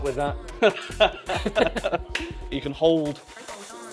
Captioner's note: laughing